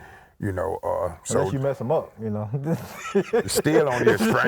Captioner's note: laughs